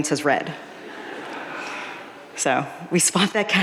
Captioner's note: audience laughing